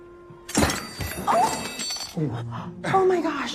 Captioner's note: clattering sounds